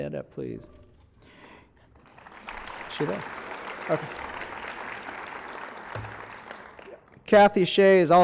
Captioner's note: applause